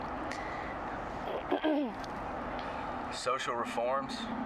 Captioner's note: clears throat